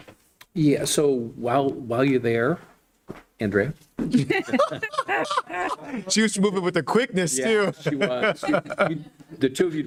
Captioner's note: laughter